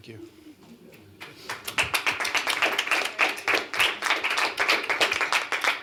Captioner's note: applause